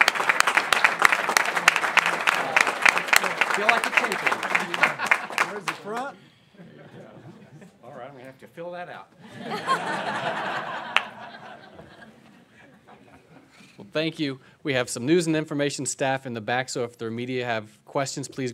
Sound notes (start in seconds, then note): 9.2 laughs